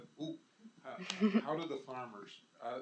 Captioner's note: laughs